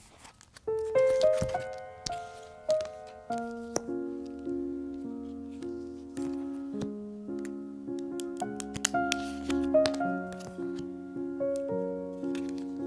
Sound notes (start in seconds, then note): 7.9 nails tapping on cards; 8.0 cards Rustling